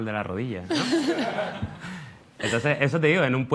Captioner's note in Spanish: Risas